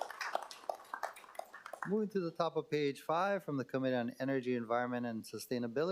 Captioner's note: applause